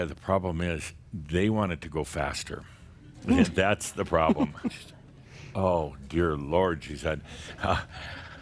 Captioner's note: more chuckles